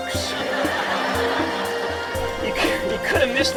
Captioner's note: audience laughing